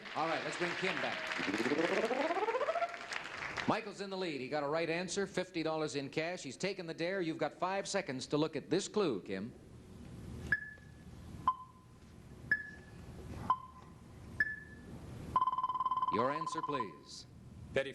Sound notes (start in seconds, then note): 10.5 clock ticks; 15.4 buzzer